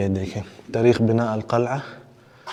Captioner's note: Arabic